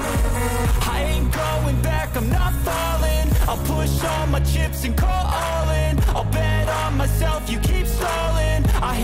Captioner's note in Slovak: Potlesk